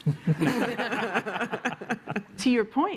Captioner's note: laughter